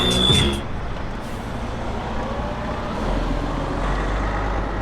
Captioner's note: bus engine whirs